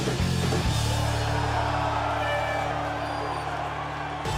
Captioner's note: crowd cheers; horn blows